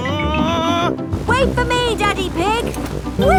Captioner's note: screaming